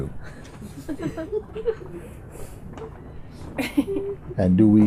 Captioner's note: laughter